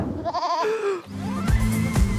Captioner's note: goat bleating; gasps